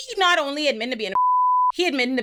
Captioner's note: beep